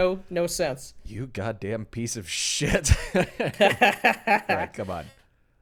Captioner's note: laughs